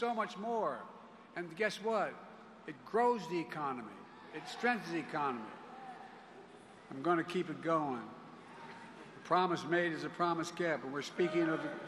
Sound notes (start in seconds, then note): none